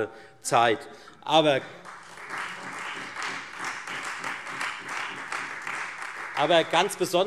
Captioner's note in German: Beifall Freie Demokraten und vereinzelt SPD